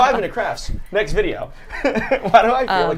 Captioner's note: laughs